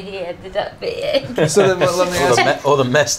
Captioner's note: laughter